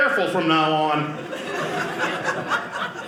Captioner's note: audience laughing